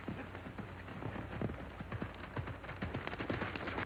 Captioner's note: horse galloping